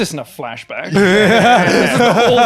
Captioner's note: laughing